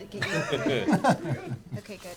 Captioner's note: laughs